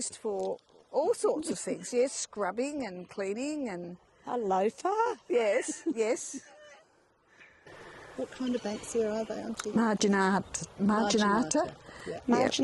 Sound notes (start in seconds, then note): 5.4 laughs